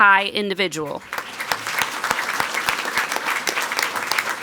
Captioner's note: people clapping